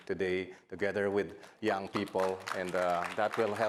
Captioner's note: audience applauding